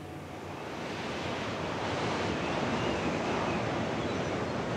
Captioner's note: waves crashing